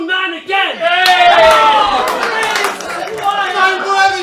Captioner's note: all cheer